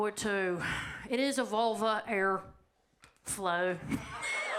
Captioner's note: audience laughs; laughs